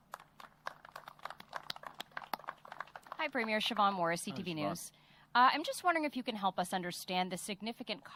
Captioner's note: applause